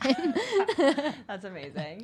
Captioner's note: women laughing